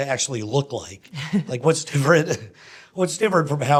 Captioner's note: laughs